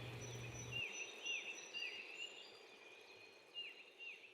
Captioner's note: birds chirping